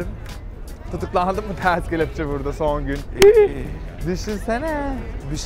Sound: gasps

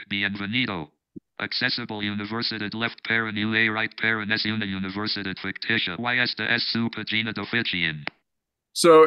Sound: non-english speech

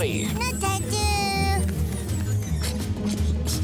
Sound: babbling

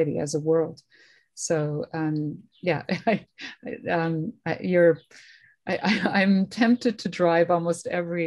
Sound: laughter

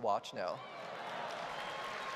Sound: applause

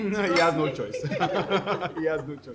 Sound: laughter

